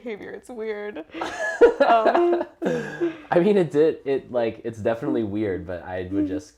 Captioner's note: laugh